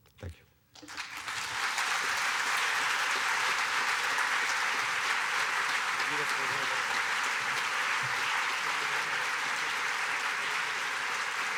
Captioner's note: applause